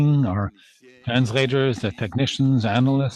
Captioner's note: speaking French